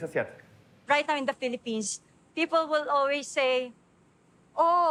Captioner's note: in English